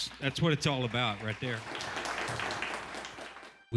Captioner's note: clapping